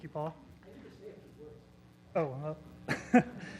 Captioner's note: laugh